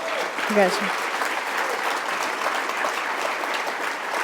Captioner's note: applause